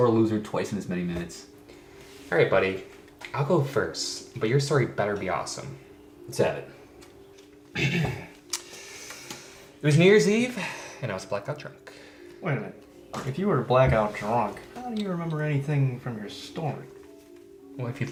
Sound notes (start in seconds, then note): 7.7 clears throat